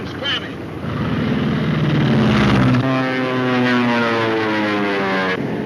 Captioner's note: plane engine roars